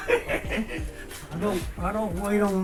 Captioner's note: laughs